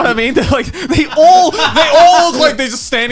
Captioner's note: laughing